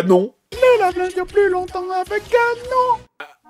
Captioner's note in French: Voix-Off